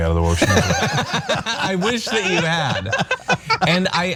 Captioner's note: laugh